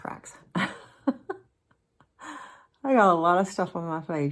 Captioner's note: laughing